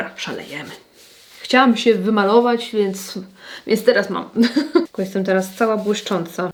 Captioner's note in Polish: śmiech